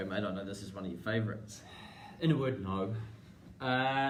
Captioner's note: sighs